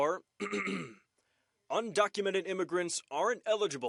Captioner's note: clears throat